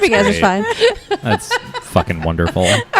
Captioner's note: laughs